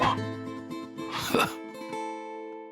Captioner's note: sad guitar outro; scoffs; sad guitar outro